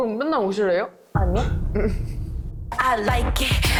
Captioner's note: no thanks sound effect